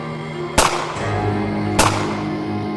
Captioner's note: gunshots